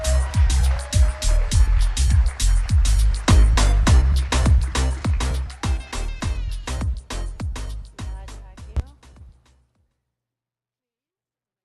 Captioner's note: cheers and applause